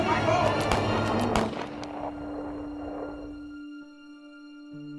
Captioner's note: gun shots fired